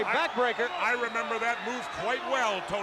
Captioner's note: crowd chatter